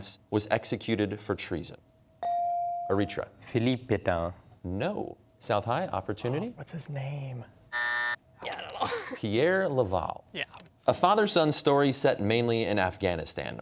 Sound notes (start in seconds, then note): 7.7 buzzer